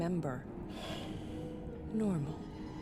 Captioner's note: exhales